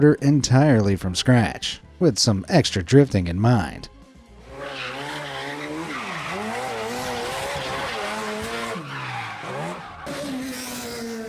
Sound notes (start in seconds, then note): 4.4 car engine revving; 4.4 car tires screeching